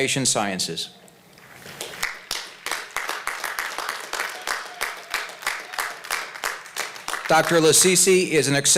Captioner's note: applause